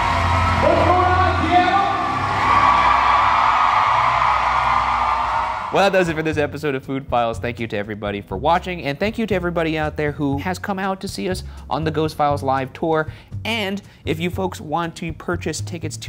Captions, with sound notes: - What's going on, Seattle? (crowd cheers) - Well, that does it for this episode of "Food Files." Thank you to everybody for watching and thank you to everybody out there who has come out to see us on the "Ghost Files" live tour. And if you folks want to purchase tickets